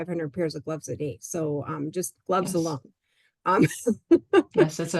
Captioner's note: laughs